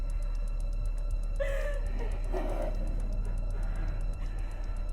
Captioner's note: Tina whimpers